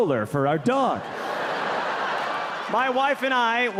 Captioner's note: audience laughing